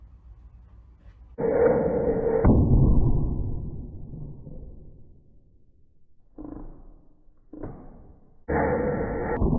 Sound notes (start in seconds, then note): 1.4 thud at 240 fps